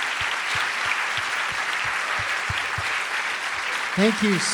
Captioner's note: audience applauding continues